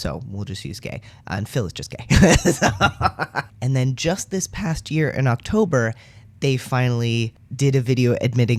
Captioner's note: laugh